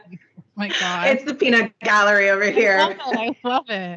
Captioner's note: both giggling